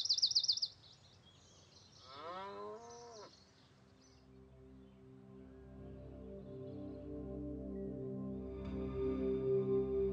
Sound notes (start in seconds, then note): 2.0 cow mooing; 3.3 birds chirping; 3.7 placid music